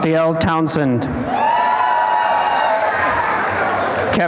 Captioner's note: applause and cheering